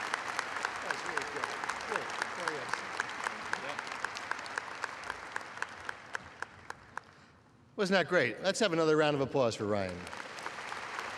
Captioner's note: applause